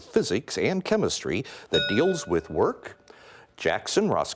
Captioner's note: bell rings